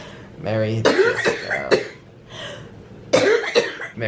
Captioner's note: coughing